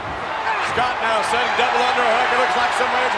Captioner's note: audience cheers